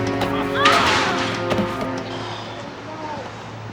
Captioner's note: screams